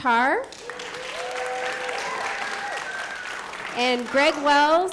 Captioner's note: applause